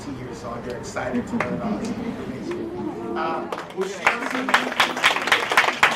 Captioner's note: applause